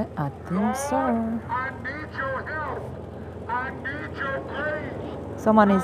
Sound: on a megaphone

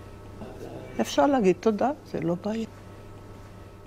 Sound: speaking hebrew

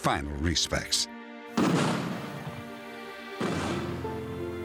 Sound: gun shots

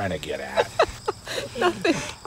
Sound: laughing

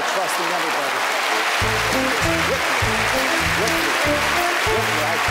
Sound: applause

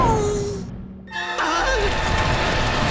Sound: groaning

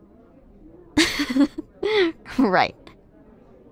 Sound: laughs

